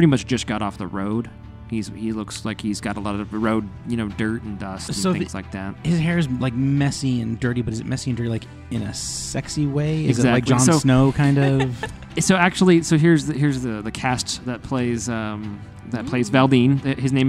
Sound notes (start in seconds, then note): 11.8 laughs